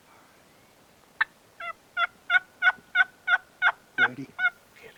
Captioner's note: turkey call yelping